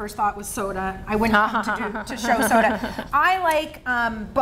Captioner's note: laughing